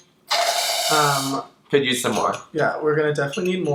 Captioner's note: slurps